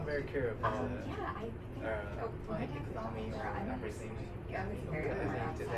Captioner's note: speaking in foreign language